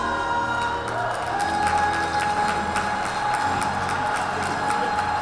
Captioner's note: cheering and applause